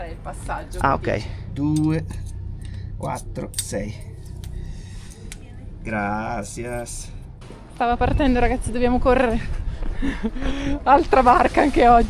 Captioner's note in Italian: risate